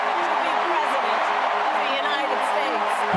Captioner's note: cheering